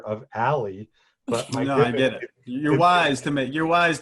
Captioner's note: laughing